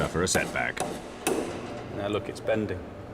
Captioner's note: mallet tapping